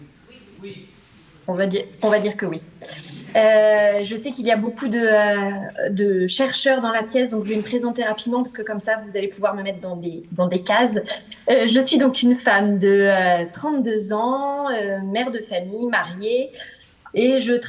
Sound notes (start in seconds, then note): 0.0 speaks French; 2.1 speaking French